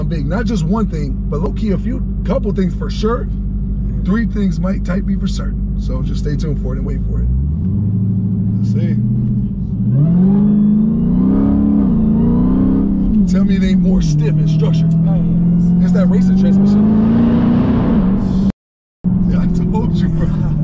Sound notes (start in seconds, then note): 10.0 car engine growling; 17.2 car engine revving